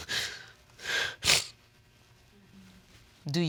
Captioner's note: sobbing